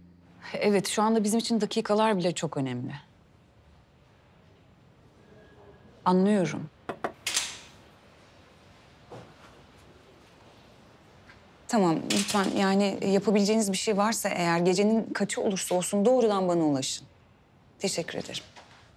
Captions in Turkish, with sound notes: Evet, şu anda bizim için dakikalar bile çok önemli. Anlıyorum. (Kapı vuruluyor) Tamam. Lütfen, yani yapabileceğiniz bir şey varsa eğer... ...gecenin kaçı olursa olsun doğrudan bana ulaşın. Teşekkür ederim.